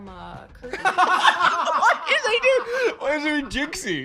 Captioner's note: both laughing